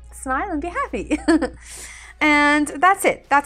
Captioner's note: laughs